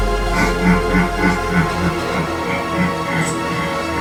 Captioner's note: Lideri laughs